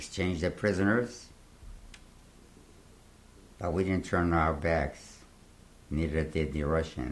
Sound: pauses for 3 seconds

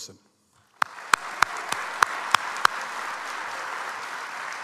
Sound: audience applauds

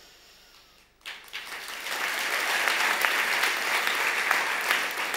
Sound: audience applause

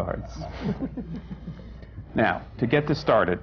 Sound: laughter

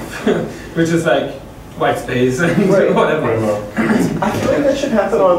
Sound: chuckles

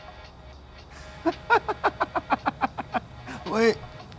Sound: bird laughs

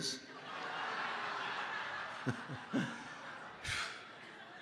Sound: congregation laughing

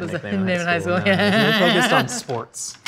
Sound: laughing

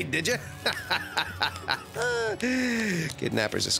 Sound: chuckling

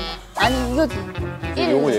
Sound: frustrated

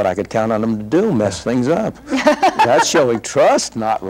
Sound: laughs

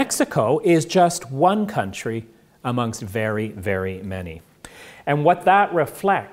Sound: none

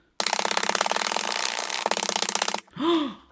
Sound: sped-up chopping; gasps

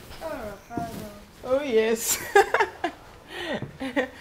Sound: laughs

